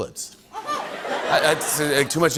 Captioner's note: laughter